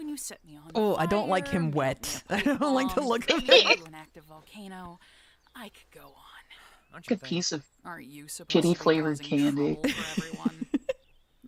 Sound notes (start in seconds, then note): 7.1 sighs